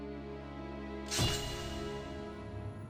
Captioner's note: metal clanging